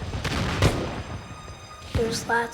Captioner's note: explosions